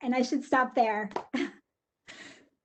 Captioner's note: chuckles